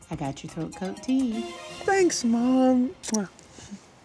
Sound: kissing

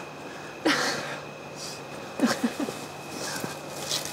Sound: giggling

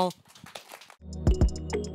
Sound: applause

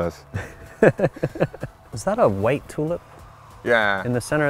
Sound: laughs

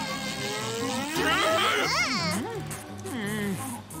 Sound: screaming

